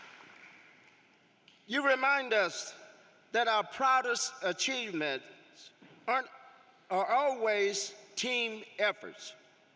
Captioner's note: applause